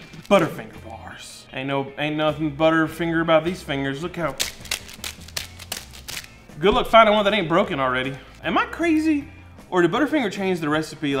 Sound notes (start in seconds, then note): 4.2 wrapper crackling